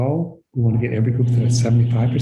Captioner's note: appliance buzzing